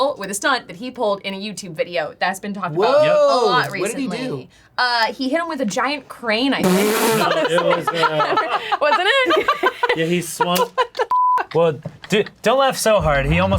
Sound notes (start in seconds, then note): 7.0 laughs